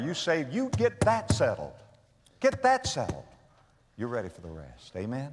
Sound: pound

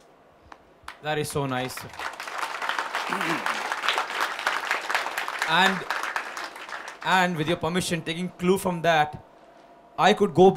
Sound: applause

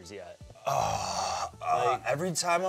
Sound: groans

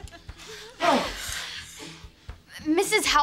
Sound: breathing heavily

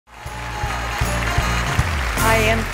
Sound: audience applauding

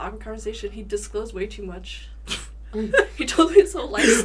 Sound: both chuckle

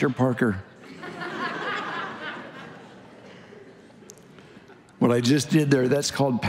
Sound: congregation laughing

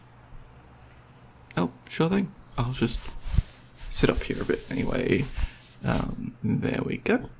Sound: couch rustling

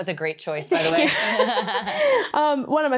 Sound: both laugh

